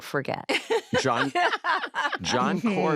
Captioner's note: laughter